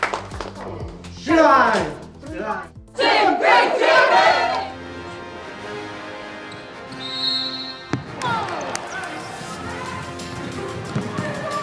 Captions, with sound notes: Be lions like your badge. You're lions! Team GB! First. Second. (whistle)